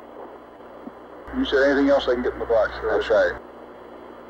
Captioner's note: mission Control Audio